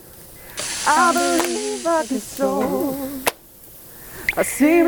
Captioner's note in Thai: พร้อมกับเสียงซู่ซ่า ของเนื้อที่กำลังถูกย่าง